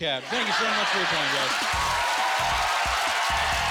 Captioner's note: cheering and applauding